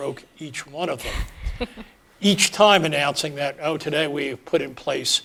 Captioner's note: laugh